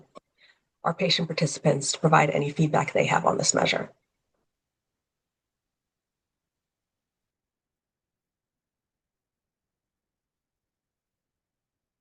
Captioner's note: pause